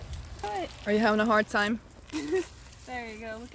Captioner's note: laughter